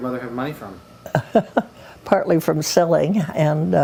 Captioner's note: laughs